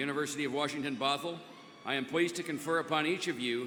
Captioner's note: cheers and applause